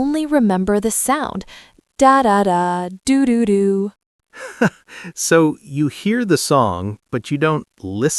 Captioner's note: laughs